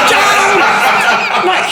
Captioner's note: all laughing